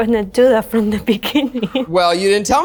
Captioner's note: laughs